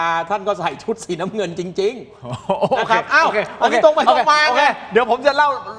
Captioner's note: laughter